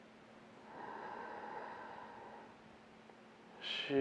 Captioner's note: inhaling